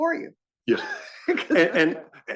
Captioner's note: laugh